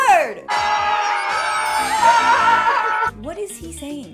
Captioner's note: everyone screams